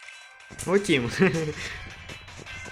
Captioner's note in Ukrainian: сміється